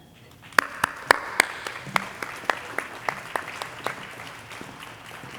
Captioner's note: audience applauding